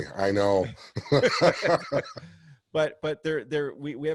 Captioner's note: laughs